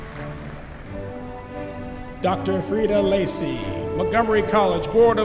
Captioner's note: applause